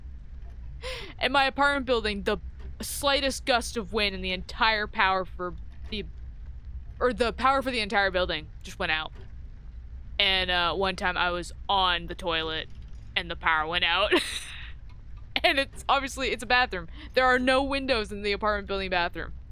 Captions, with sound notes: And my apartment building, the slightest gust of wind and the entire power for the-- er, the power for the entire building just went out. And, uh, one time I was ON the toilet and the power went out [Laughs] and it's obviously--it's a bathroom. There are no windows in the apartment building bathroom.